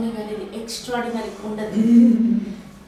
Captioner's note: laughs and smiles